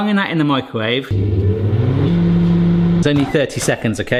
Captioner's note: microwave humming